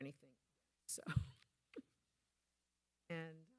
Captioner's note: laughing